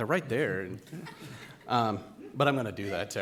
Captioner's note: directors laughing